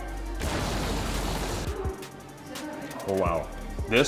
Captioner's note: fire blazing